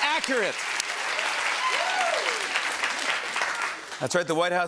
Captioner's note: applause